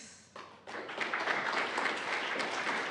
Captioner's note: applause